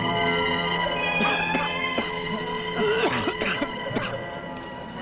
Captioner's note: Frank coughing